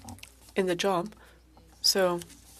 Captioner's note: speaking French